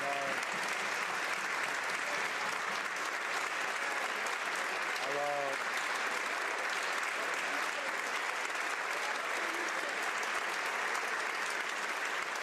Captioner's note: some Applause